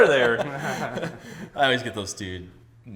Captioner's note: laughs